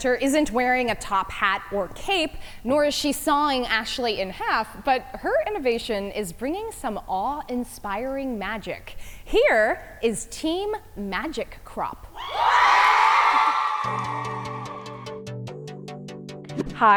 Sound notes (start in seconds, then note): 12.2 audience cheers; 13.8 upbeat music